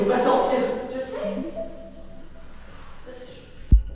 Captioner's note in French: Bruit de notification